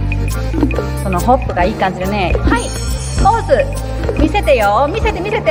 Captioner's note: foreign language